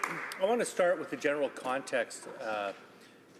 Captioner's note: some Applause